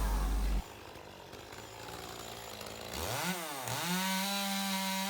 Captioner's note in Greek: Ήχος από αλυσοπρίονο